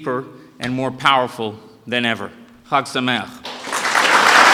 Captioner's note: speaking Hebrew; applause